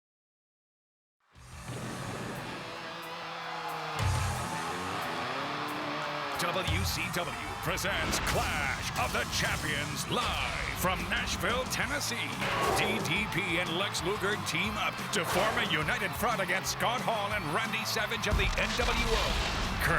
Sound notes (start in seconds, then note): 1.7 crowd cheering; 1.7 upbeat music; 12.4 graphics whooshing; 18.3 graphics booming